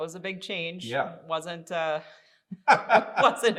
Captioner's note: both laughing